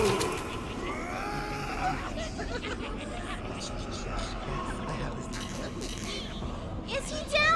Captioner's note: Kobolds chitter excitedly